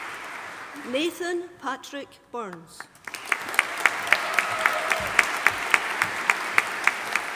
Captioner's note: audience applauding